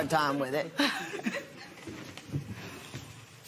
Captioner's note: laughs